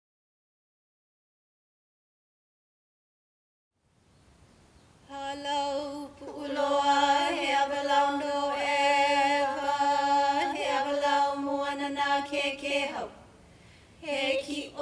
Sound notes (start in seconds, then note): 5.0 chanting in Ōlelo Hawaiʻi